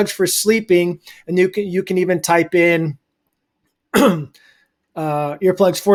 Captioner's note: clears throat